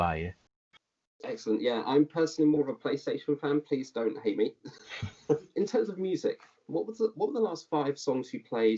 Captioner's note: chuckles